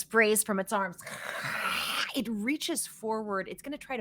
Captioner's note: hisses